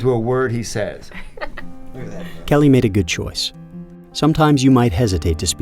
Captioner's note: laughter